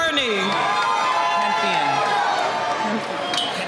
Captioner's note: cheering